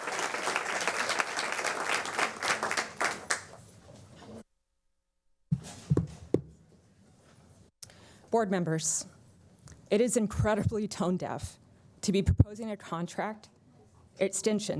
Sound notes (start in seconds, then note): 1.6 applause